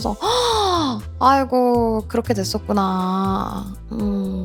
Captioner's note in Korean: 헉 소리